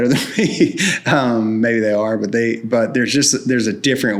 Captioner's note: laughs